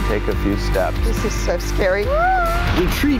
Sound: cries

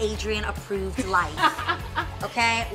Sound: laughs

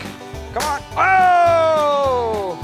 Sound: tank pops

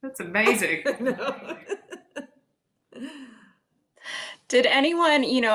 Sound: laughs

